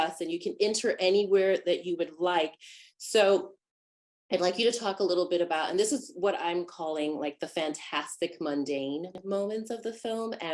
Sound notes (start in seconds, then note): none